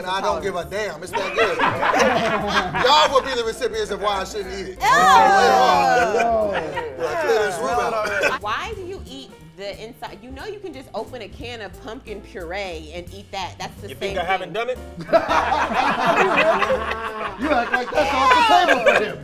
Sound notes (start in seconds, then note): 4.8 group groans; 14.9 group laughs